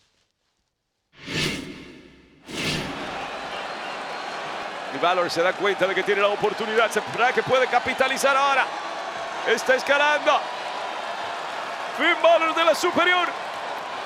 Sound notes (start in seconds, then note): 1.5 applause